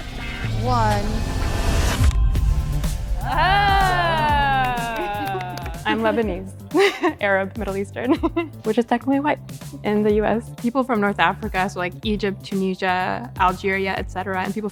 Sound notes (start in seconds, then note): 1.6 tense music; 3.2 group exclaims; 8.0 chuckles